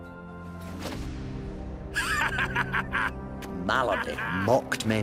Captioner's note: laughs